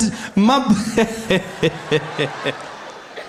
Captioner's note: Zuma laughing